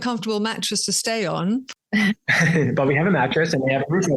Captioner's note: everyone laughs